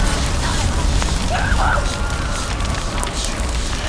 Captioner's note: scream